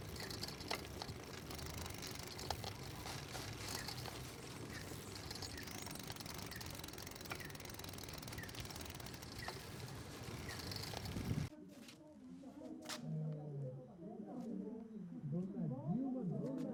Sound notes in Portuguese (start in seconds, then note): 5.4 canto de pássaros